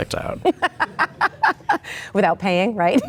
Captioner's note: laughing